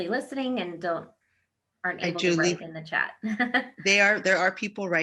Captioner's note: laughs